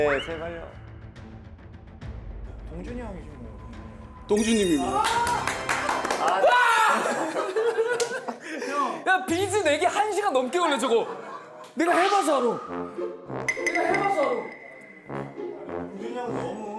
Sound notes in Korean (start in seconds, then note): 6.6 기쁨의 포효